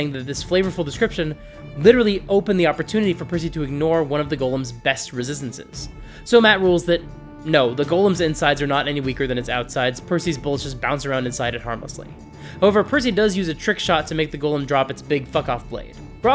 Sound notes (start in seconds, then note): none